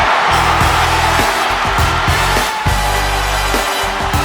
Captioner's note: cheering